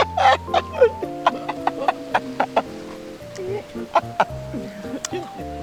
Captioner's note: both laughing